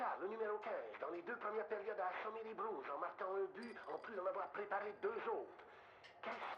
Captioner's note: radio